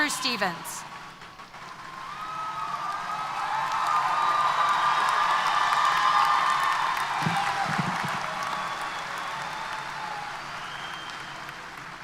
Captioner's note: applause & Cheers